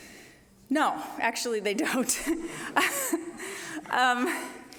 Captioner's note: laughing